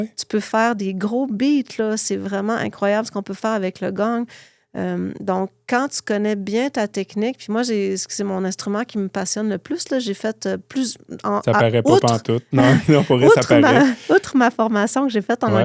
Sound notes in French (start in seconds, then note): 12.6 rires; 13.8 grognement